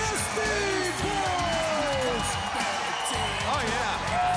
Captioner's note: crowd cheering